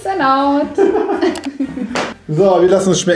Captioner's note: both laughing